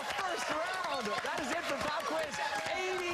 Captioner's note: cheers and applause